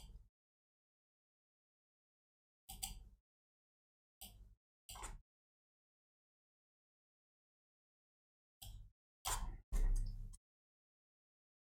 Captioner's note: blank Audio